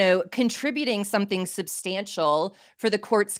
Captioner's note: none